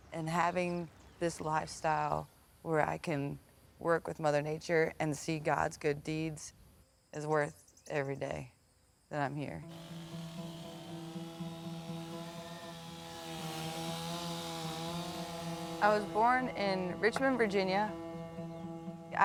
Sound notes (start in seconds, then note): 9.6 saw buzzing; 10.0 gentle music